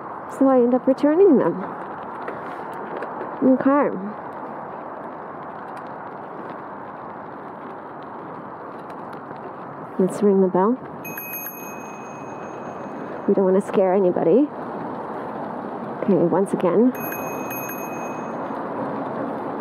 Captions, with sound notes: so I end up returning them. OK. Let's ring the bell [bell rings] we don't want to scare anybody. OK, once again [bell rings twice].